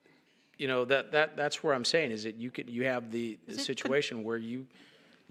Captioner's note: laughter